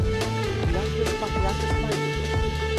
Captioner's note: Leise Gesprächsfetzen